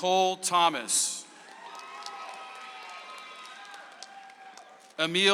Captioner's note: audience applauds